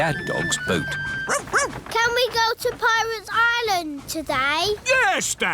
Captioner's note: barks